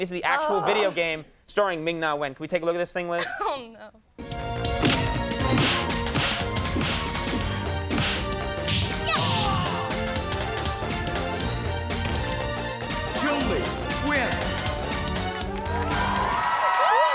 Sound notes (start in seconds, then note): 4.5 upbeat music; 5.7 Chun-Li kicking; 5.7 Chun-Li punching; 9.6 Guile grunts; 10.6 upbeat music; 15.1 upbeat music; 15.2 audience applauding; 15.4 audience cheering